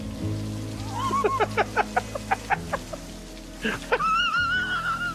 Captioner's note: laughing